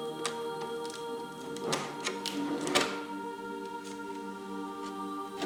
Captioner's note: plastic scraping